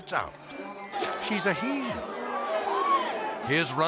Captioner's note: audience exclaiming